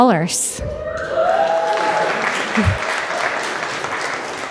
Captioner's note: audience cheering